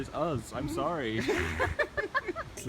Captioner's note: everyone laughs